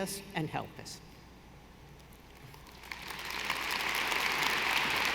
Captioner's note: audience applauding